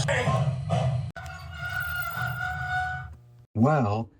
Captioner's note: train brakes groaning